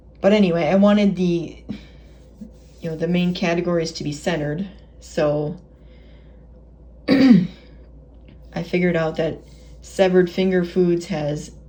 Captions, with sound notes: But anyway, I wanted the you know, the main categories to be centered so *Clearing Throat* I figured out that "SEVERED FINGER FOODS" has